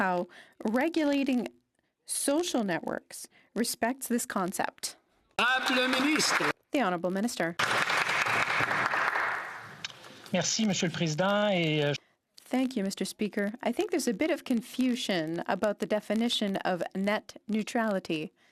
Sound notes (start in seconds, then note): 10.8 some Applause